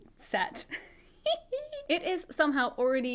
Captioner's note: laughs